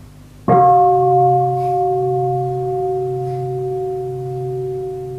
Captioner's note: bell